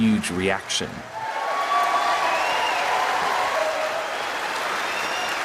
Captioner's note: cheering and applause